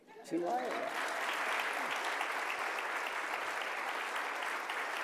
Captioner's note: audience applauding